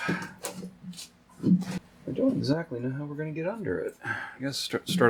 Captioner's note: mumbling to self